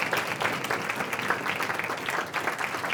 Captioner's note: applause